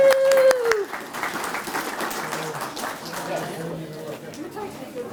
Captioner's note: applause